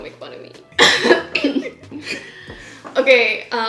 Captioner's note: both laughing